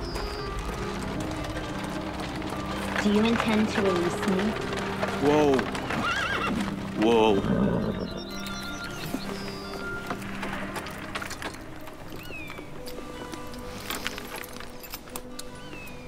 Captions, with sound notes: - Do you intend to release me? - Whoa. (horse neighs)